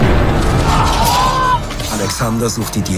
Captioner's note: screams